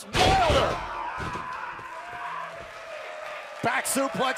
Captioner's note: crowd cheering